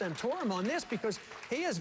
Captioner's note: applause